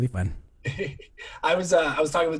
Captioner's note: laughs